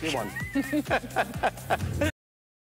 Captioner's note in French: laughter